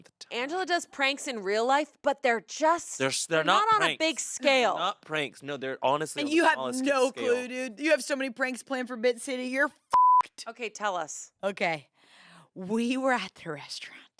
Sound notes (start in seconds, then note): 9.9 beep